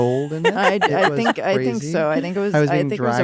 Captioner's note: laughs